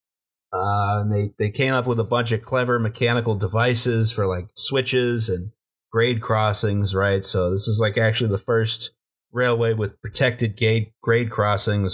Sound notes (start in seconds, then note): none